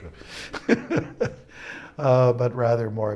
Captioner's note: laughs